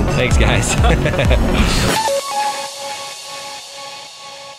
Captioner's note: laughing